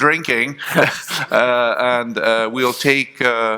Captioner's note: chuckling